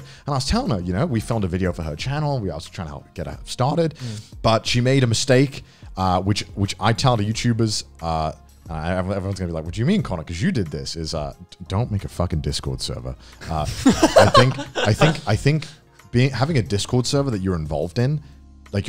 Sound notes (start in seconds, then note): 13.6 laugh